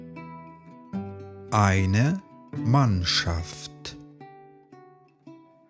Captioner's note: german